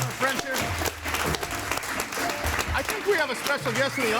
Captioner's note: audience applauding